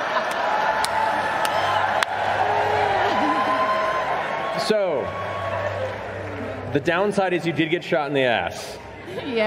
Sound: laughter

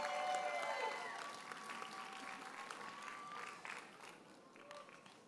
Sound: audience cheers and applauds

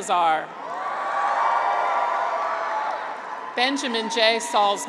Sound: graduates cheer

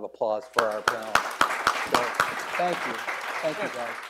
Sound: audience applauds

